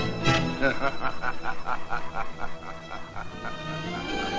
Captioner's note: del gardo laughing